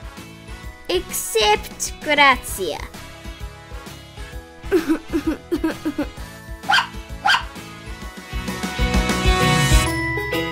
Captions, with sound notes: ...except Gracia (Crying) (Bark) (Bark)